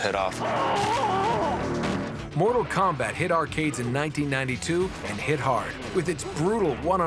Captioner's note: screaming